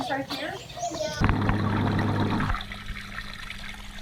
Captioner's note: water running